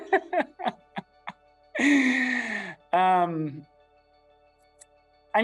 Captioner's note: laughs; inspirational music